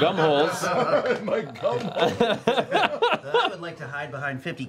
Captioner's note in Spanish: risas